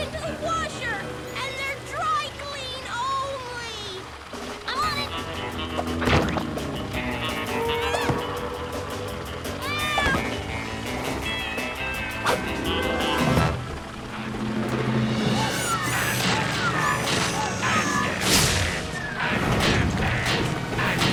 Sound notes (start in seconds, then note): 5.0 spy music; 7.6 Owen yelps; 9.6 Lizbeth yelps; 10.0 spy music